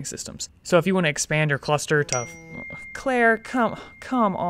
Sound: ding of a phone

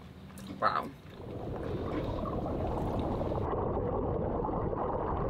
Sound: water churning

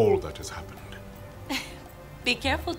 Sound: chuckles

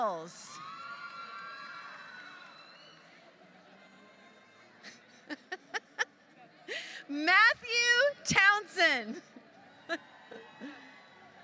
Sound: laughter

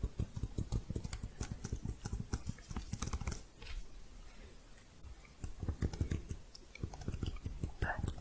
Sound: quick typing

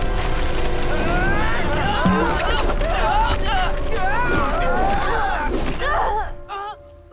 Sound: screaming

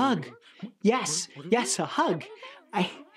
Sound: critters mumbling

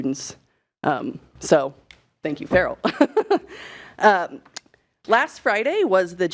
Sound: chuckling

